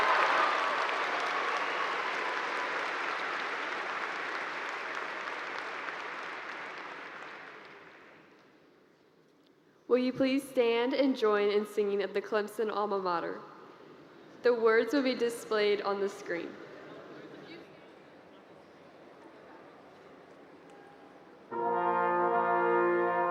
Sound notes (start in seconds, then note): 4.4 cheers and Applause